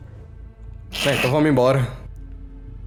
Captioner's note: laugh